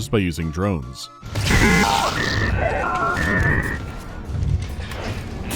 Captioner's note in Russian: сбитый, искажённый крик